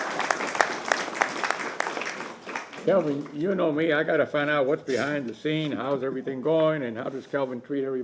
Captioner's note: applause